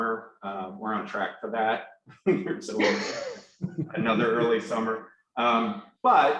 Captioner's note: laughs